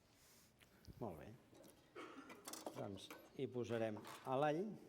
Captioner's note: non-english speech